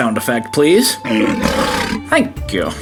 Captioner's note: gentle music continues; lion roars